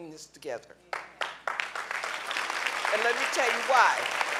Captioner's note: clapping